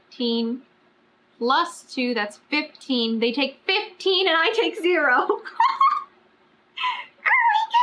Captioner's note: laughs